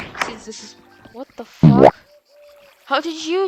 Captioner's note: boowomp